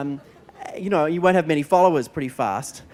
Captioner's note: laughter